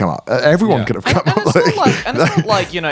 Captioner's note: chuckles